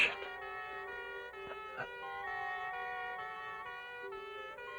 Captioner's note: siren wailing